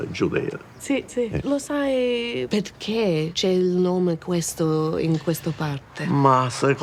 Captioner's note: speaks in foreign language